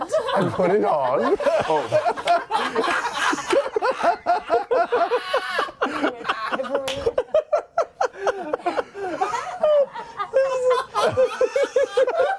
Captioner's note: laughter